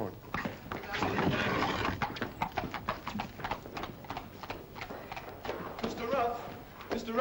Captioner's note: hooves trot away